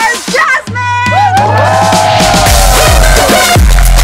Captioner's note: People hooting